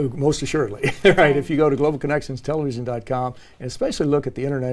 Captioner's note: laugh